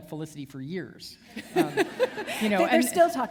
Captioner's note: laughter